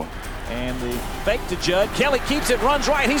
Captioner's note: voiceover